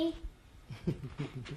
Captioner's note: laughs